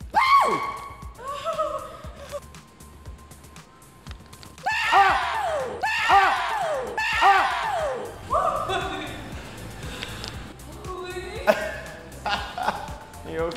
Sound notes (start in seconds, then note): 0.4 girl laughing; 4.6 yelling; 8.6 woman laughing; 12.2 laughing